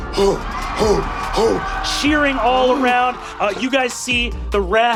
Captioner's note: grunting